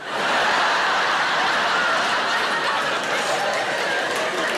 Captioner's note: audience laughing